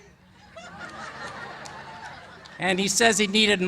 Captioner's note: laughter